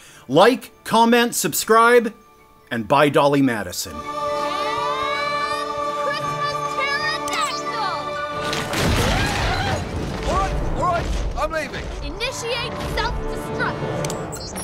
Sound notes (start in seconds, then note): 8.4 crash through roof! pterodactyl noises